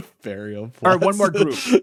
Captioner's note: laughing; laughs